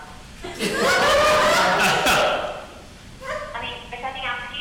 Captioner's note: audience laughing